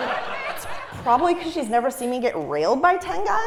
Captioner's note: laugh